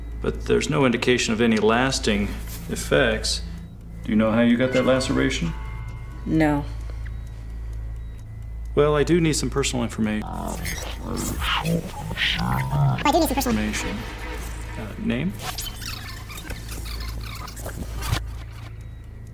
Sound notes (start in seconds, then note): 11.7 voice distorts and reverses; 15.7 tape rewinding squeaks